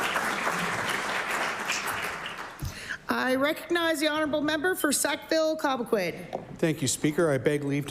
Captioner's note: applause